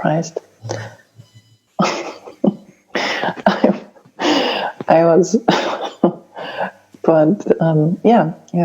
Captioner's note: laughing